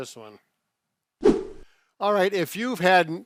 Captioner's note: swooshing sound